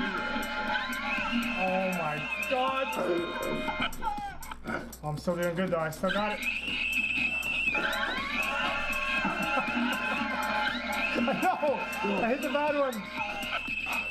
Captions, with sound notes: Oh my god I'm so dang good tho I still got it. *Baby crying noise* *Traffic honking* No, I hit the bad one